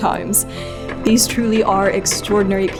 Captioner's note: wheel clatters